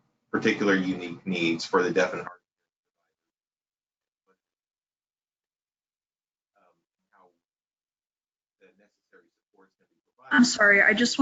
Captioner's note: sound cuts off